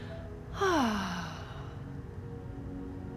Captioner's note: sighs